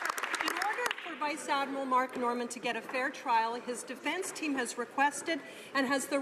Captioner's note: some Applause